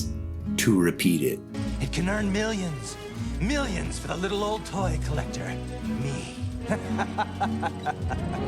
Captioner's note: laughter